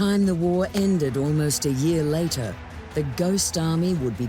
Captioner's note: crowds cheering